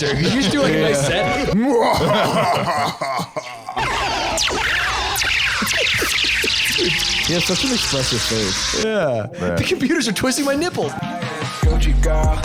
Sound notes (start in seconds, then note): 3.8 screaming over laser-gun noises; 11.6 outro music